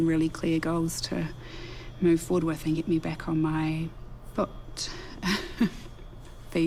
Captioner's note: chuckles